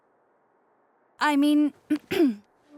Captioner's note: clearing throat